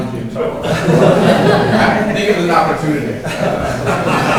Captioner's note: laughter